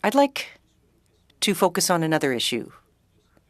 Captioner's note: speaking French